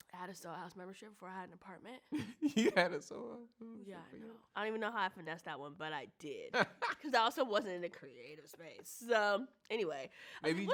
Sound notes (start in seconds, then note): 2.7 chuckles; 6.7 laughs